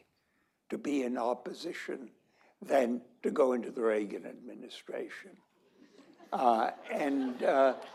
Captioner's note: laughter